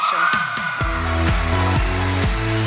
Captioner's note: applause, cheering